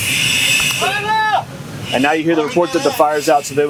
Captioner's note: men shouting